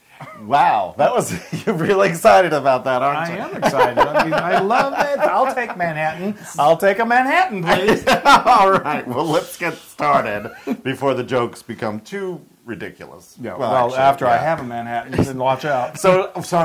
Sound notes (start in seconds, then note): 3.2 laugh